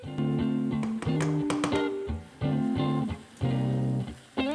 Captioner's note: colander clatters